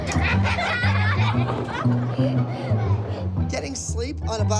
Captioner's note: laughter